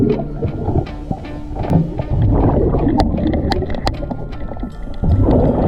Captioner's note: suspenseful music continues; water bubbling